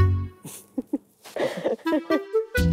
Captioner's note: Both chuckle